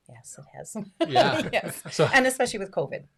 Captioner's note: laughs